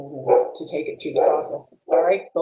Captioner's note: dog barking